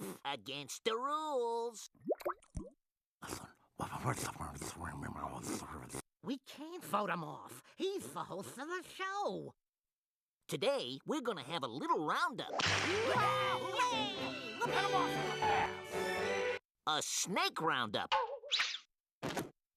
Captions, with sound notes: AGAINST THE RULES. [whispering] WE CAN'T VOTE HIM OFF. HE'S THE HOST OF THE SHOW. TODAY, WE'RE GONNA HAVE A LITTLE ROUNDUP. [all exclaiming] HEAD THEM OFF AT THE PASS! A SNAKE ROUNDUP.